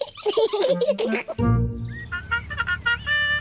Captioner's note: both giggle; car horn